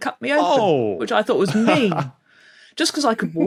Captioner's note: chuckles